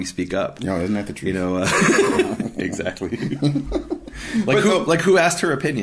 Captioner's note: laughing